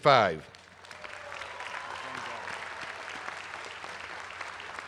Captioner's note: applause